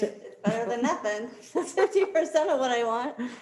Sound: laughs

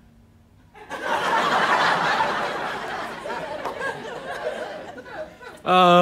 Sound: audience laughter

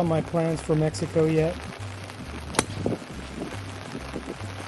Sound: downpour sounds

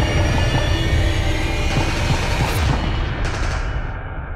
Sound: indistinct gunfire

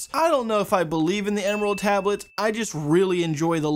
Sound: bell Dings

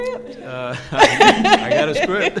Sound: laughing

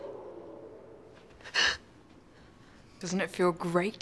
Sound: gasping

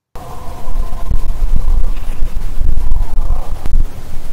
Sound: canine howling

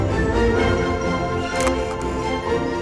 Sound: camera shutter click

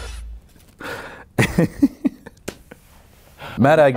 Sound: laughs

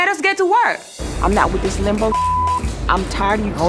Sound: beep

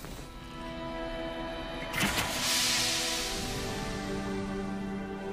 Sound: whirring, hissing

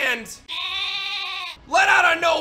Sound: goat noises

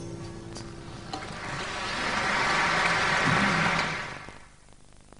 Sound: applause

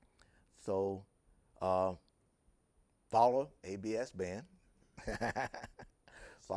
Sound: laughing

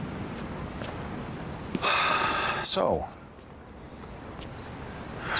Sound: sighs heavily

